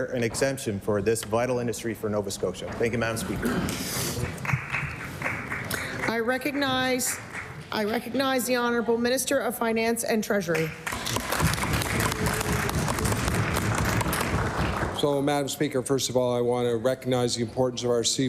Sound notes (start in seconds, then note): 8.9 applause; 13.6 applause